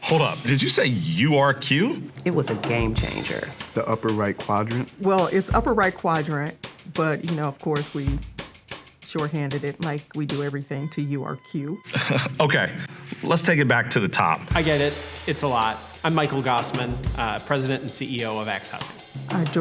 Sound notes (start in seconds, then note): 11.8 chuckles